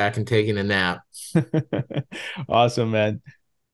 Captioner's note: laughs